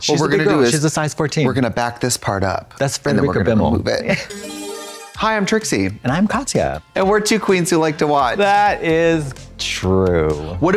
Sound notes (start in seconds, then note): 4.2 bright chime